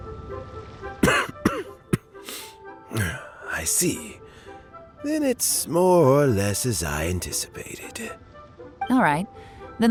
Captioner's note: cough